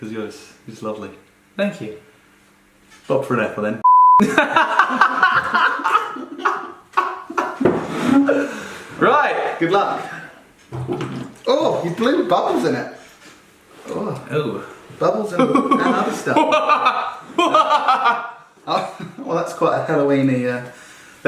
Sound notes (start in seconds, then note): 4.2 laughing; 15.3 evil laughing